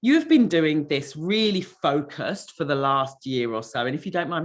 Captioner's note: none